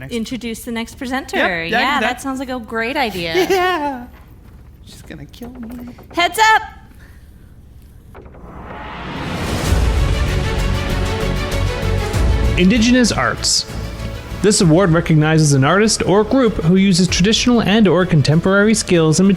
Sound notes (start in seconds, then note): 2.9 laughs; 9.8 tense dramatic music